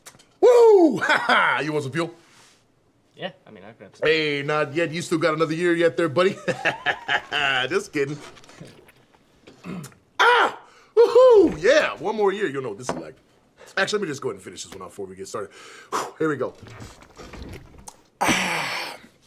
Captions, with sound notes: Woo! You want some fuel? -Yeah. I mean I've got... -Hey, not yet. You still got another year yet there buddy. Just kiddin'. Ah! Woo-hoo. Yeah! One more year, you'll know what this is like. Actually let me just go ahead and finish this one off before we get started. [exhales] Here we go. [exhales deeply]